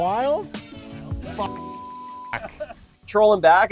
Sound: beep

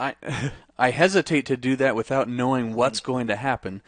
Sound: chuckles

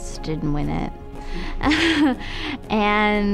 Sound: laughing

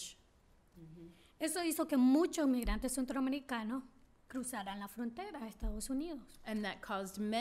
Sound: speaking spanish

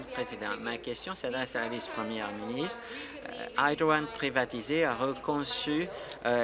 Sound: applause

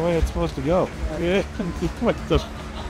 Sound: snickers

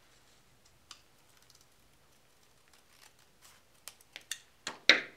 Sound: scissors snipping

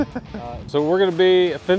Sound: laughs

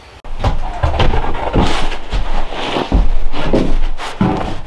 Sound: board clattering

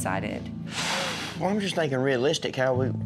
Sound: exhales

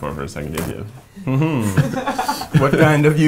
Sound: laughing

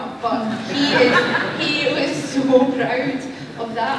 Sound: laughter

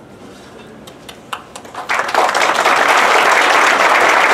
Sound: applause

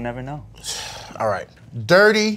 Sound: sighs

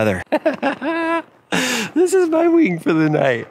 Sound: laughs

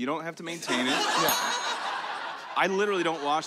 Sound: laughter

